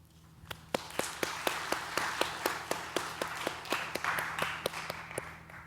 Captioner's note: audience applauding